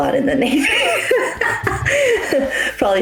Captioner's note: laughing